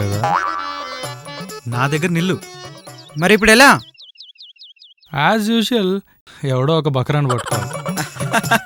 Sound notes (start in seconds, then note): 7.2 laughs